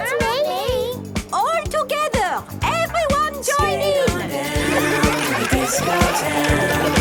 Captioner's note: laughter